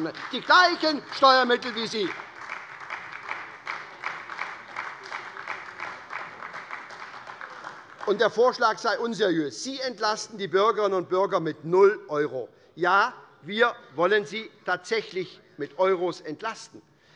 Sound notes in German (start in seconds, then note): 2.3 Beifall bei Abgeordneten der SPD